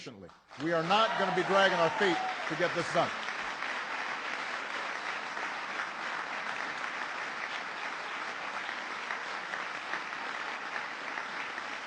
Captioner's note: applause